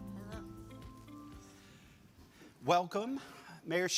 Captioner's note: chair scraping